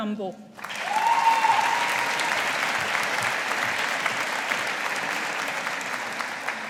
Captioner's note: audience applauding